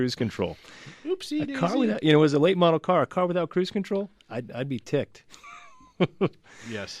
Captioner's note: laughs